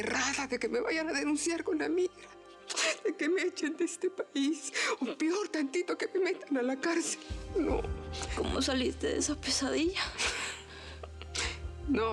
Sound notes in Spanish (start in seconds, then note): 2.7 sollozando